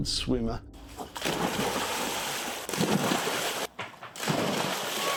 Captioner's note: water splashing